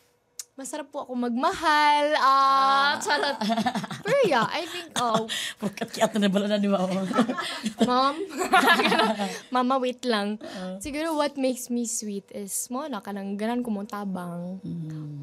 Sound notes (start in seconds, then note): 2.9 laughs; 8.3 chuckles nervously